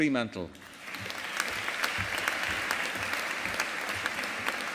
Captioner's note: audience applauding